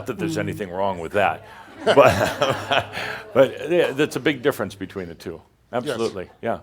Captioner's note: some chuckles